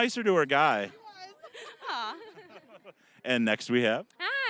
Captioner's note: all laughing